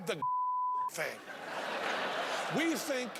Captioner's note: beeping; laughing